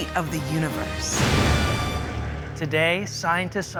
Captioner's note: explosion